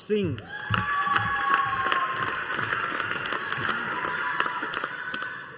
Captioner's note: audience applauding